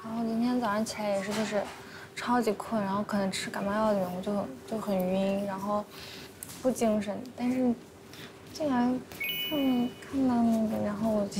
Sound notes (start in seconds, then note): none